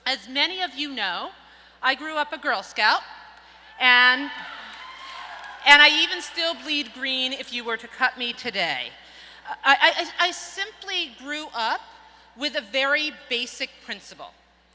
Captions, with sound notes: As many of you know, I grew up a Girl Scout. And (audience cheers) I even still bleed green if you were to cut me today. I simply grew up with a very basic principal.